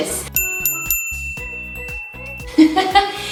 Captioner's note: dinging; laughs